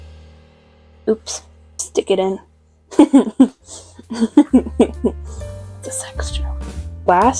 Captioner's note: laughter